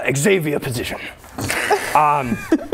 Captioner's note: snickering